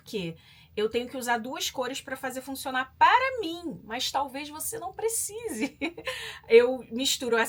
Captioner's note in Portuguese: risadas